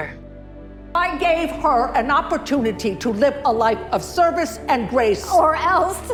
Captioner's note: shouting